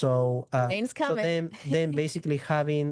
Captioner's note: chuckles